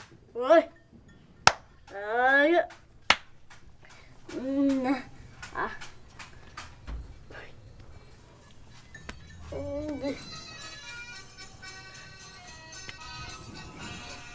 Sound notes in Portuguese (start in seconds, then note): 6.8 sons das tapinhas e sonorização da criança